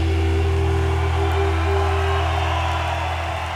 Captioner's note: cheering